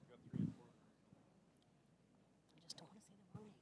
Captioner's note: backstage whispering